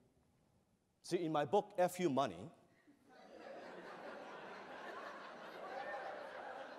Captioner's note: laughter